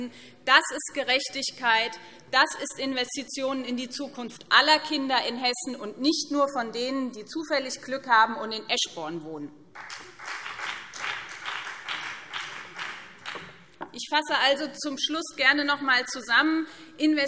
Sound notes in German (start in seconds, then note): 9.7 Beifall BÜNDNIS 90/DIE GRÜNEN